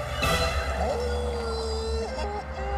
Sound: howling

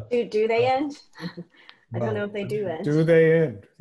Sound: laughing; laughs

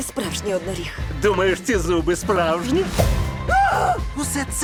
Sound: exclaims

